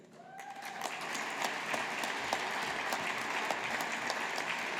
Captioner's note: audience applauding